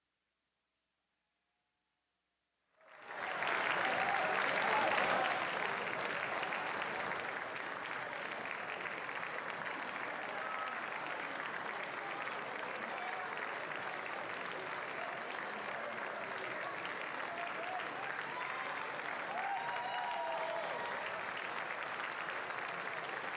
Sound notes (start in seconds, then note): 2.0 applause; 8.4 continued applause